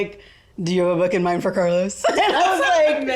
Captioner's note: laughs